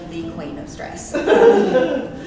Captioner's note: laughs